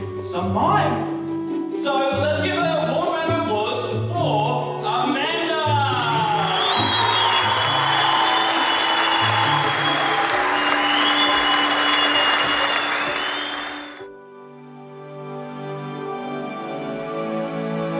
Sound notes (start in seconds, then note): 6.6 applause; 14.4 music swells